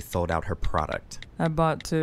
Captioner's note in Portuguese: barulho de teclado do celular